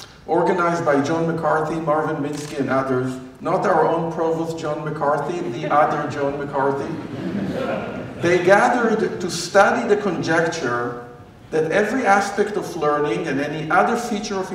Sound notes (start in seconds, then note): 6.8 laughter